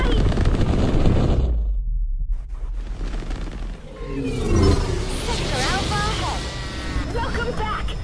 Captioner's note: space rocket noises